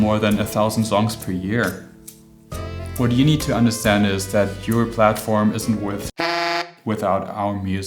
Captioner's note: honk